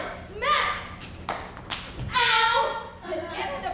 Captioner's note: hand smacks